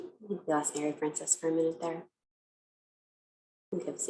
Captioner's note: none